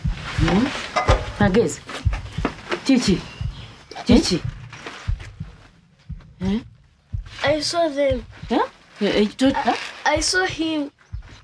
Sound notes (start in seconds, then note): none